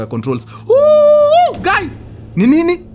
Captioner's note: screaming